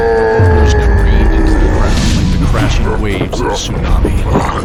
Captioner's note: battle cry